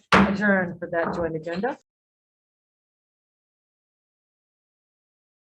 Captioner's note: hammers the table